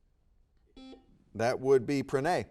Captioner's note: buzzer beeping